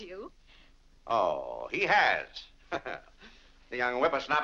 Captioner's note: laughs